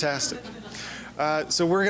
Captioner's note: chuckling